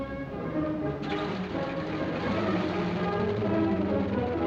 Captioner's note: engine revving